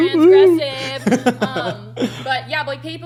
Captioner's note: laughs